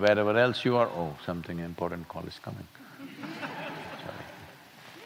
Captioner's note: laughter